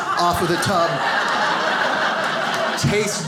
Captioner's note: audience laughs